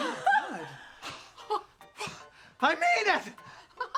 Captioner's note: joyful laugh